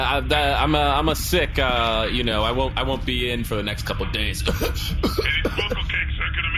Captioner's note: coughs